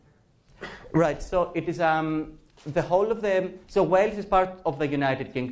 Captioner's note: professor speaking